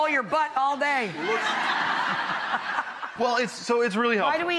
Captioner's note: audience laughing